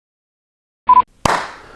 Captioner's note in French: Bip Bip; Clap